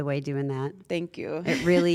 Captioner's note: laugh